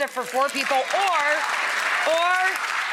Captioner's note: audience applauding